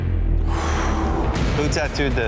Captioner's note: contestant exhaling